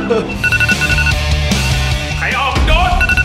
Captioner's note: iPhone alarm; rock music playing; chuckles